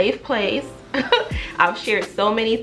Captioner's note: chuckles